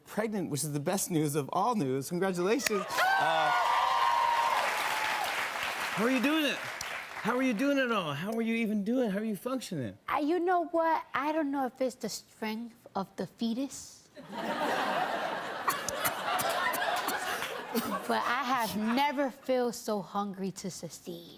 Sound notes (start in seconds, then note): 2.7 cheers and applause; 14.2 laughter